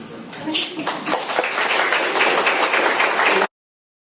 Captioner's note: applause